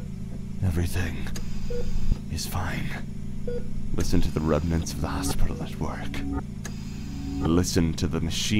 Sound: mechanical ambiance

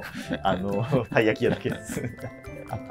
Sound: laughing

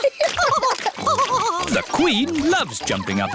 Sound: both laughing

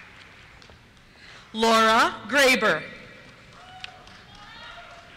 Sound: cheers

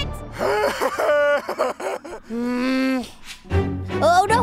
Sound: laughing

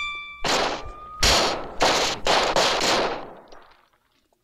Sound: lights crashing

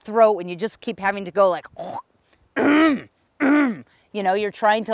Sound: clears throat

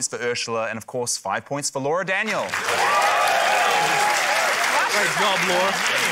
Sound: cheering, applause

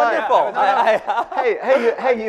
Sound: laughing

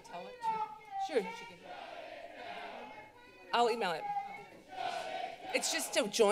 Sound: prostester shouting

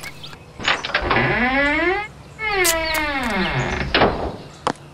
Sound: door opens and shuts; footsteps

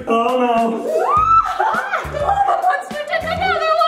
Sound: screaming

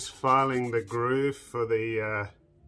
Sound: filing sound

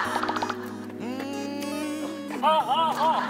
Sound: stepping

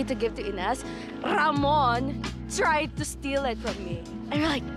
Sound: con Spanish R

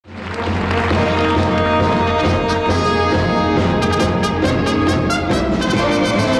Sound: audience applauding; upbeat music

